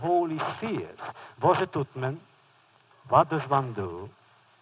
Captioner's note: foreign language